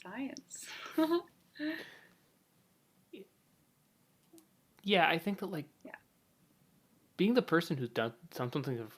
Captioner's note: laughs